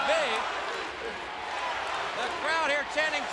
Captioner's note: crowd cheering